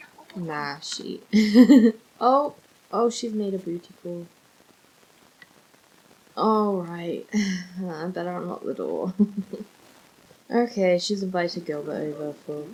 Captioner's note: sighs